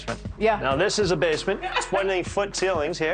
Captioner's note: laughs